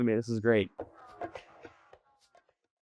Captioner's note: drums beating rhythmically; people chanting